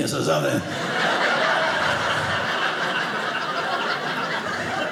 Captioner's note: audience laughing